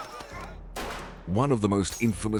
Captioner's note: gun bangs